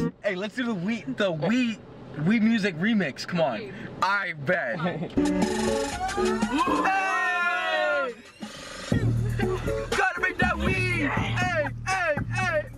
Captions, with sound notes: Aye let's do the Wii, the Wii, Wii music remix c'mon AIGHT BET *incoherent screaming* *BEAT DROP* Tryna make that wii aye aye aye